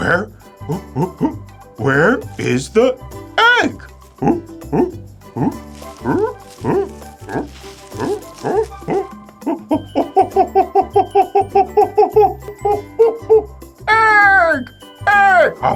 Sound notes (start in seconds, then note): 3.9 monkey noises